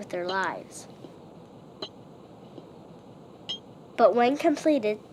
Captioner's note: train stake hammering